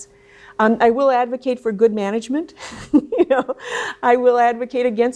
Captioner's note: laughs